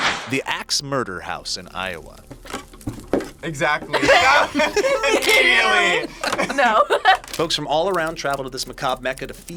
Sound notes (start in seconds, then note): 3.9 both laugh; 6.9 laughs